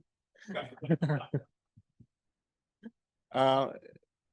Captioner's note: panel laughs